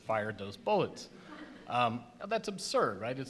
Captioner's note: audience gasps